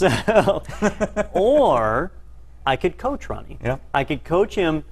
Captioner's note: laugh